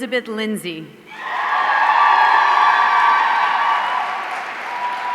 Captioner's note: audience cheering